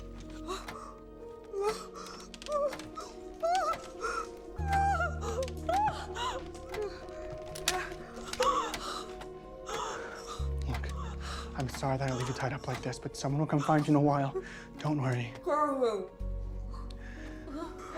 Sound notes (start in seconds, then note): 1.4 Mrs. Hill whimpering; 4.5 whimpering hysterically